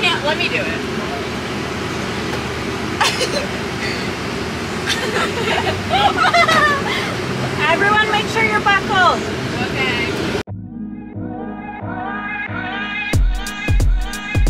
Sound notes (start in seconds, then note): 3.1 children laughing; 11.8 upbeat funky music plays